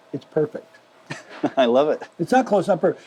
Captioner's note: laughs